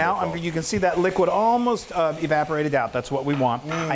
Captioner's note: none